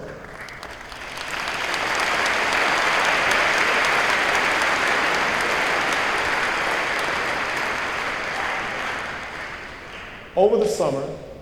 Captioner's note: applause